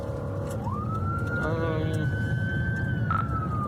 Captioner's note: siren wailing